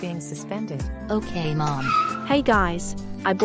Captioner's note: truck Vrooming